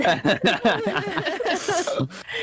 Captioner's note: all giggling